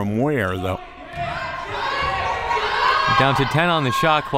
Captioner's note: players yelling